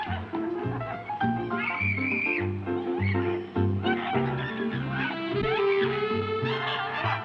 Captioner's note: laughs; uptempo jazz music; Ruth screaming